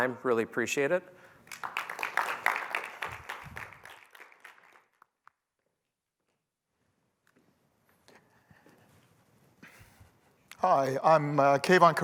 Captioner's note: applause